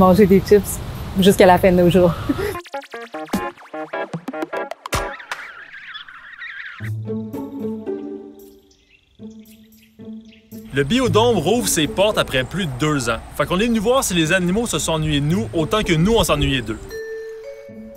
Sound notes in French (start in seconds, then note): 2.5 indicatif musical; 5.1 pépiements; 17.7 pépiements